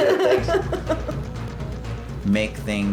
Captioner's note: laughs